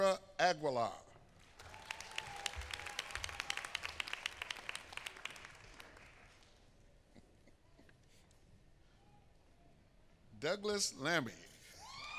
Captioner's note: applause